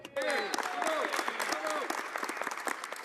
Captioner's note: speaking French